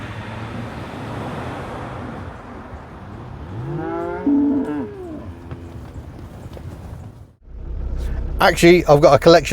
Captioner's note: driveoffnoises